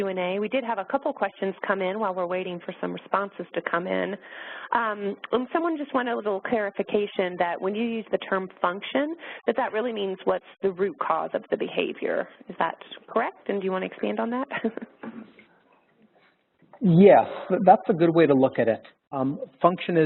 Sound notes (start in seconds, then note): 14.5 laughter